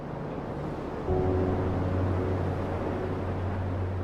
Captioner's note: waves crashing